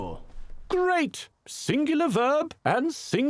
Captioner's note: voiceover